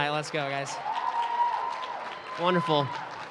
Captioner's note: applause